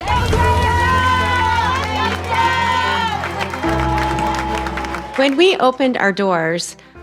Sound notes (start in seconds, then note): 0.0 cheering & Music